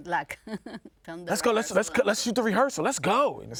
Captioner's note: laughs